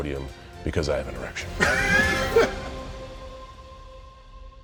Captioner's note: laughter